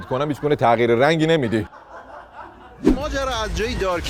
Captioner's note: laughter